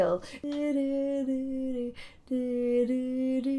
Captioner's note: humming